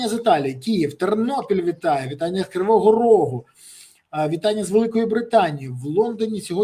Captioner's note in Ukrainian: сопіння